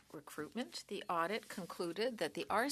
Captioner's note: speaking French